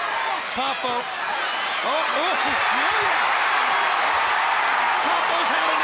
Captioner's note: audience cheering